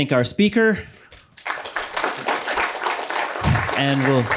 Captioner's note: applause